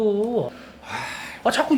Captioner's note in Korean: 한숨